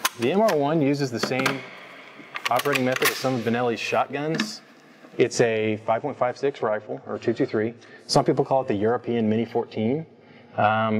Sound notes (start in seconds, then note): 1.9 loud clank; 2.0 gun clicks; 2.8 gun charging click